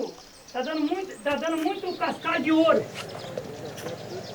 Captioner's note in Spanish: <i>habla en portugués</i>